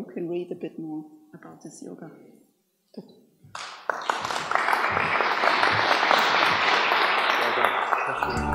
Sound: applause

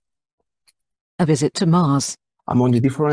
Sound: voice-over

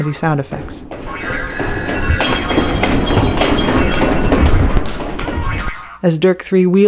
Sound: array of honks, toots, crashes and assorted comedy sound effects, growing louder

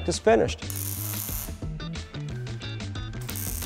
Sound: buzzing

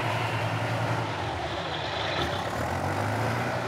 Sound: engine rumbling

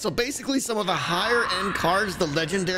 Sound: shrieker shrieks

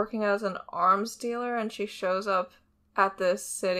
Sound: none

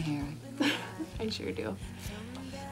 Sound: laughs

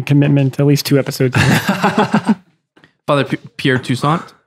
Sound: Father Angelus laughs

